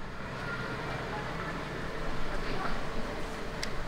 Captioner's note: quiet traffic noise